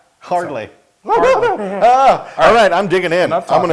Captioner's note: laugh